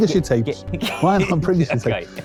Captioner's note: laughs